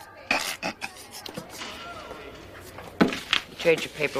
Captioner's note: Breeze chuckles